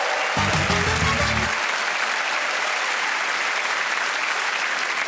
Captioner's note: cheers and applause